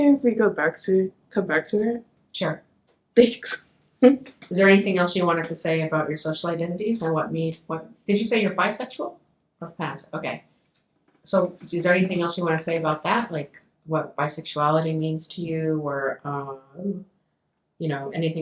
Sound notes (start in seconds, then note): 3.6 chuckles